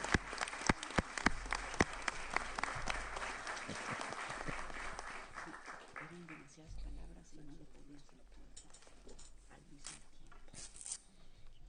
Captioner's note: applause